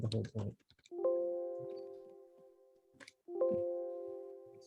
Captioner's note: computer chiming